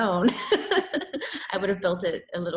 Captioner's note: laughs